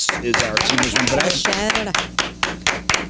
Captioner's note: crowd applauding